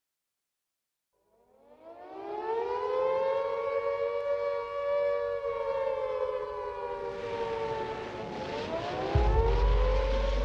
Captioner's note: soundbite of sirens blaring